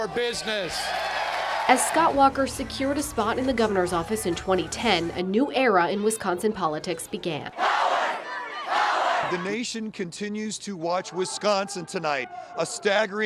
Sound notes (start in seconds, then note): 7.5 cheers